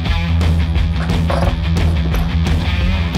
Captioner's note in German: klappern